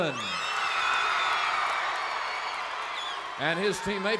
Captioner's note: crowd cheers